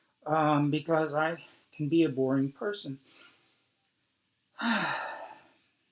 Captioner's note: sighs